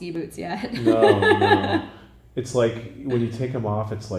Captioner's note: laughing